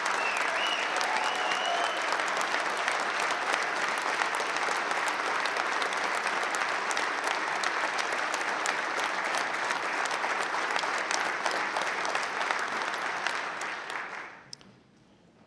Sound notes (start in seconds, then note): 10.3 applause; 10.3 cheering